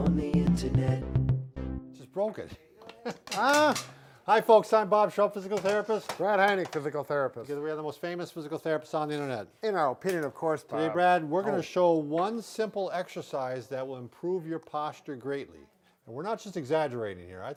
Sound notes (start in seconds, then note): 0.0 gentle rhythmic music ending; 2.9 laughing